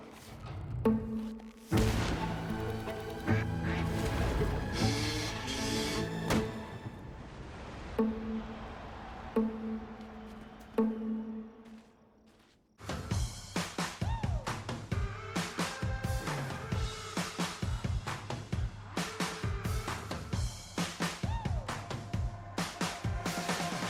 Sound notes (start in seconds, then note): 11.5 footsteps